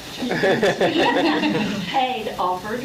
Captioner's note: laughs